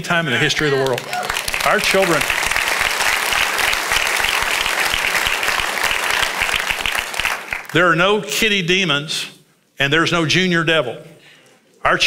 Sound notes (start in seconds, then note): 3.1 congregation applauds